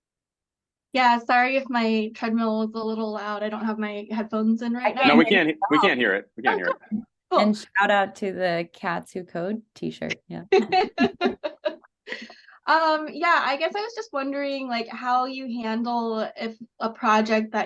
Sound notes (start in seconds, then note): 10.5 laughter